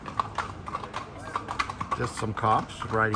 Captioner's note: horses clopping